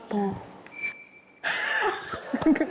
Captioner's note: sound effect of peeking notes